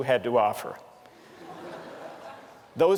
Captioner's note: laughter